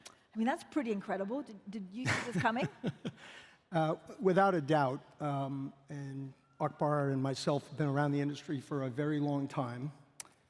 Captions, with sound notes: That's pretty incredible. Did you see this coming? [chuckles] Without a doubt. Akbar and myself have been around the industry for a very long time.